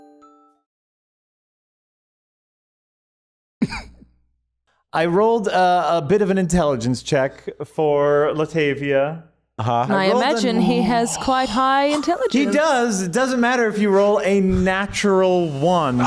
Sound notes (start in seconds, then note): 0.3 silence; 3.4 chuckles